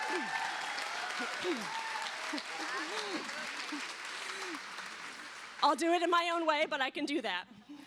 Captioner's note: cheers and applause